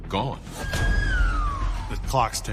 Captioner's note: siren wailing